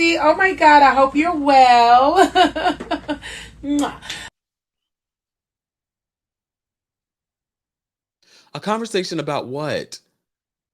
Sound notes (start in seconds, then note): 2.1 laughs; 3.4 kisses